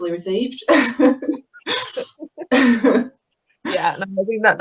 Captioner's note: laughing